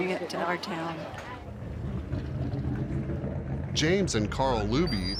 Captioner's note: engine running